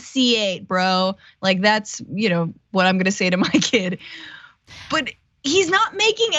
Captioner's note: laugh